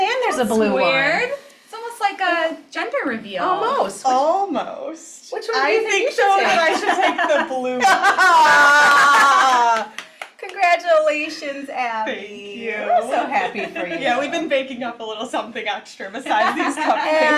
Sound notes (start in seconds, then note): 7.8 laughs; 8.2 clap